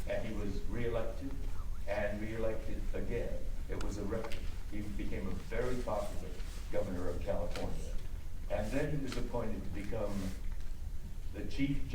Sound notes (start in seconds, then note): none